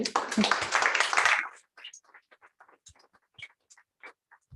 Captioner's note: applause